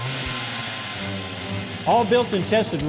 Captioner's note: drill revving